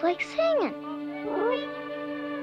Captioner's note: whining happily